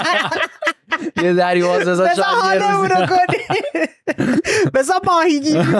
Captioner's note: laughs